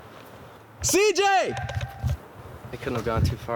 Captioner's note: screaming